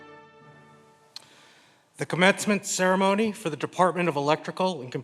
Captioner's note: smacks lips